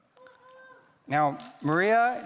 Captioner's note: attendee cheering